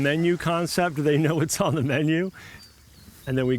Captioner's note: chuckles